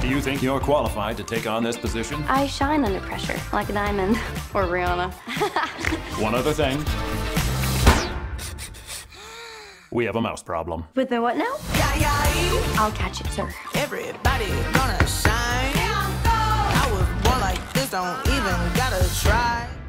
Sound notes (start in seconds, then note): 5.2 laughs, snorts; 8.4 gasps